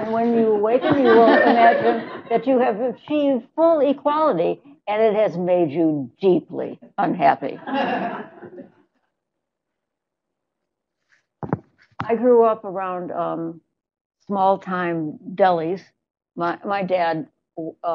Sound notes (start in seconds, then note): 7.6 laughter